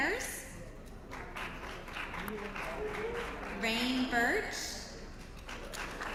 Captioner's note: applause